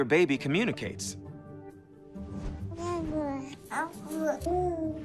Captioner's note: babies cooing